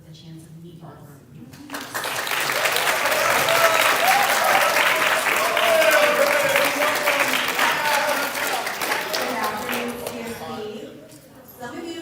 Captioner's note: applause